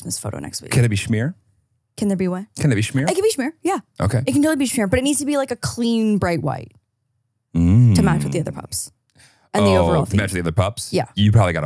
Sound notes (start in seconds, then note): 8.0 laughs